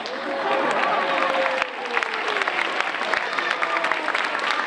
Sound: audience applauding

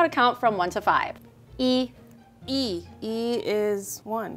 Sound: speaking in mandarin

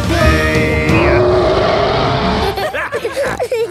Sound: roaring; laughter; snorting

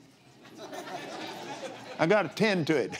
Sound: laughs

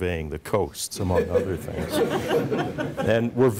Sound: chuckling

